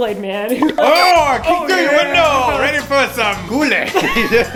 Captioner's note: car horn toots